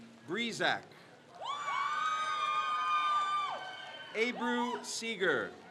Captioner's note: crowd cheers